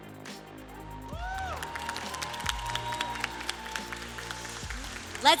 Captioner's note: applause